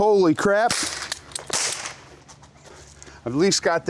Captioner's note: gunshots